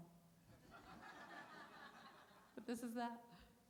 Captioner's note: laughter